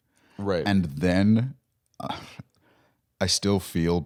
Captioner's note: laughs